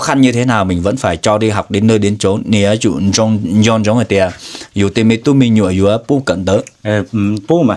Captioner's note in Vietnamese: khịt mũi